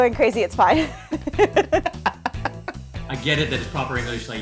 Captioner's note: laughs